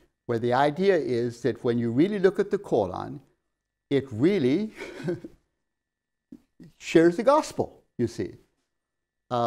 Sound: laughs

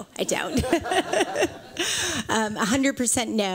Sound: laughter

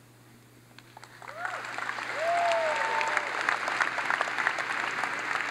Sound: audience applauds

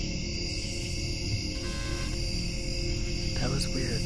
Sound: buzzing

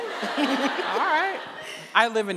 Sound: laughing; audience laughing

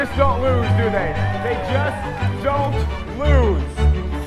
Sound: crowd cheering

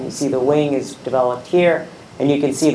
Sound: none

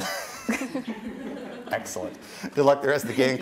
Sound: chuckles; contestants laughing

